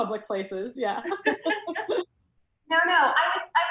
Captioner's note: loud laughs